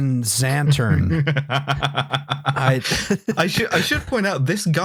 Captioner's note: laughs